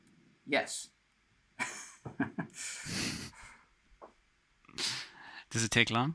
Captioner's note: laughs